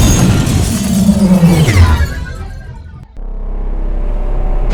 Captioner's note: explosion